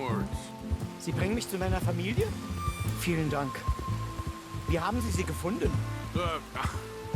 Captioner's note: in German